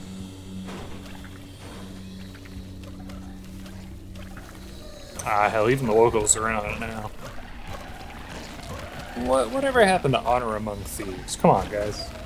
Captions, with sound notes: [Squishy anomaly sounds] Ah hell, even the locals are in on it now. [Angry squishy anomaly sounds] What-, whatever happened to honor among thieves? Come on, guys!